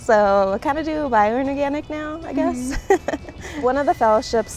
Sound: laughs

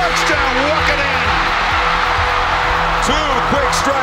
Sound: crowd cheers

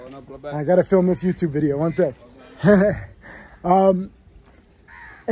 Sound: laughs

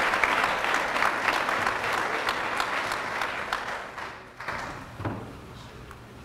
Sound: applause

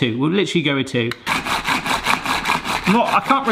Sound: gadget trundling and scratching

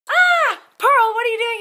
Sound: scream

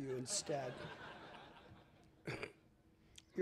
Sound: laughter

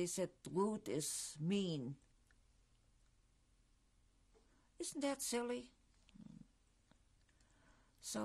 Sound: pauses for 3 seconds

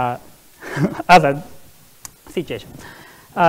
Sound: laughs

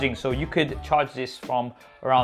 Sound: none

